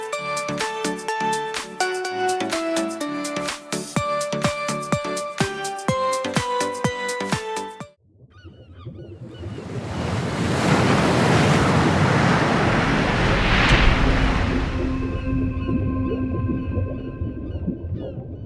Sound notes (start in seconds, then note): 8.8 birds chirping; 9.4 waves whooshing; 13.3 soft music; 13.3 water bubbling